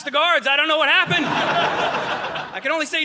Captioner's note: audience laughing